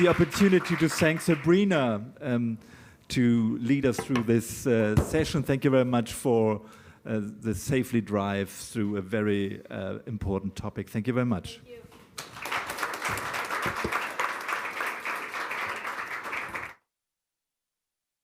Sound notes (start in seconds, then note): 2.6 applause